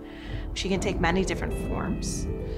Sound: air whooshing

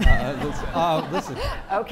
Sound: laughing

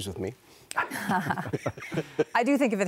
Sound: laughter

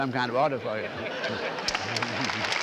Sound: laughter; applause

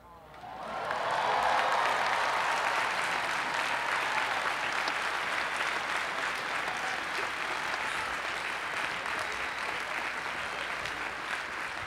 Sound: cheering and applause

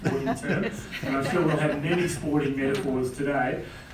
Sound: laugh

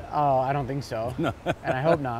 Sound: laughs

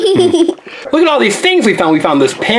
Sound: assistant laughs

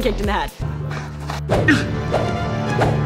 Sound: grunting

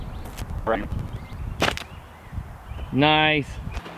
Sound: mumbles

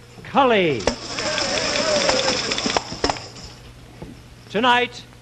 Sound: tambourines jingling; men cheering

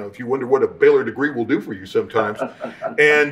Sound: laughing

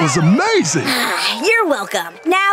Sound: sighing

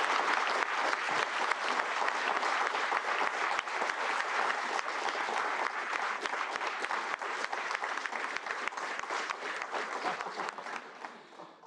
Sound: applause

